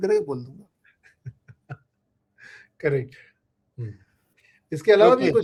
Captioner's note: laughter